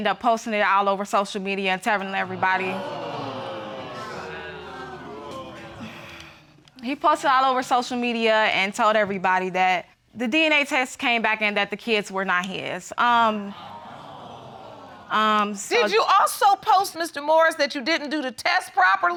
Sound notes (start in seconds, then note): 2.1 audience exclaiming; 5.4 sighs; 13.6 audience exclaiming